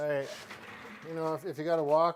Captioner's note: wheels scraping